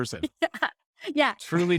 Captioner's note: laughing